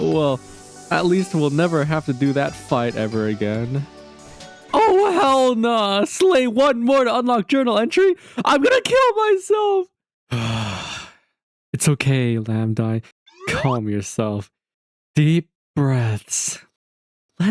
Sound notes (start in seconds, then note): 10.3 sigh